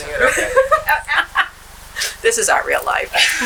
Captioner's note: laughter